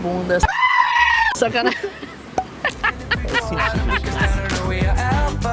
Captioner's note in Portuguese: risos